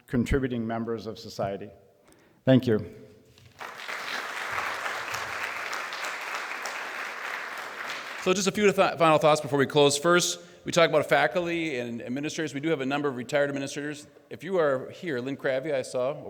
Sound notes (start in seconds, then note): 7.8 applause